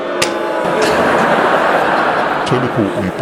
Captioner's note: laughter